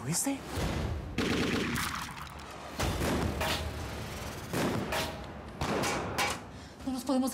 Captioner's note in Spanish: continúa la balacera